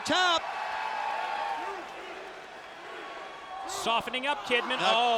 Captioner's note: audience cheers